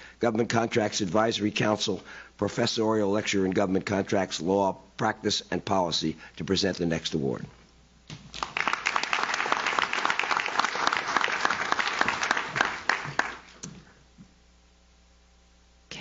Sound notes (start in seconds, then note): 8.1 audience claps